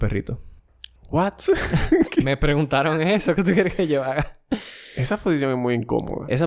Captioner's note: laughs